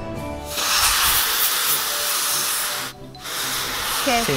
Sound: air blowing

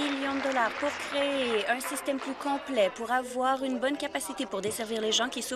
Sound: applause

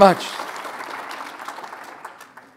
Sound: applause

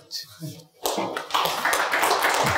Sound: audience clapping

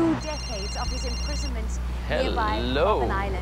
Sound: phone rings

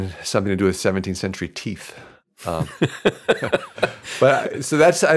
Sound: laughs

